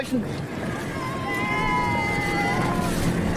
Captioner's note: cheers